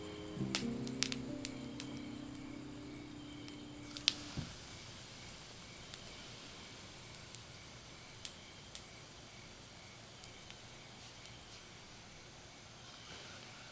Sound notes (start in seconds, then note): 0.1 fire crackles; 4.1 steam hisses